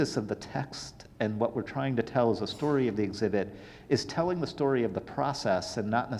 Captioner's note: none